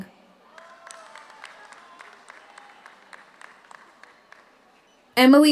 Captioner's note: audience cheers; audience applauds